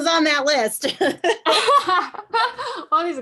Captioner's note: laughter